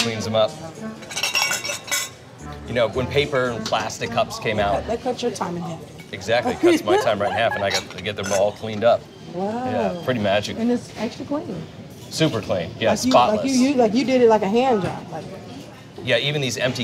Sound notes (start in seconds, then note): 0.9 glasses clatters